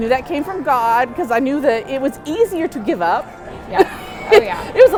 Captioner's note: laughs